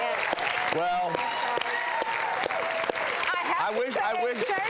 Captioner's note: applause